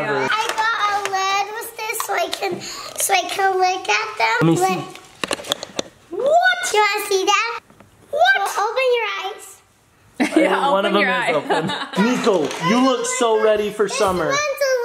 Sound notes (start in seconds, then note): 11.4 laughing